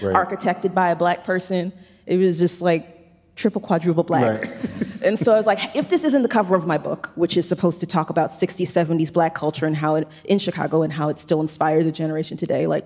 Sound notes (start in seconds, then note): 4.2 chuckles